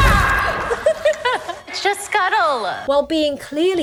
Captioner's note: Ariel laughs